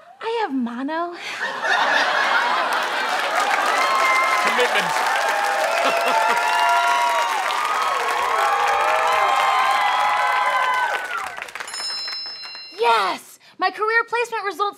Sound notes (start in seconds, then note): 5.9 laughs; 11.6 bell noise